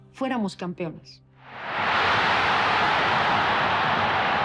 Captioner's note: crowd cheers